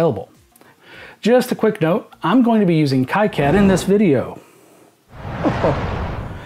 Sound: explosion

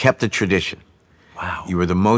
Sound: whispers

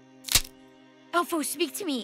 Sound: arrow clicks

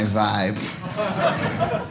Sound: audience laughing

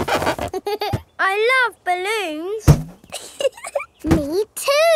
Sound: chuckles

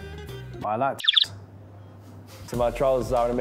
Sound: birds chirping

